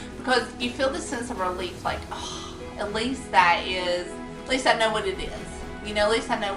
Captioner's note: sigh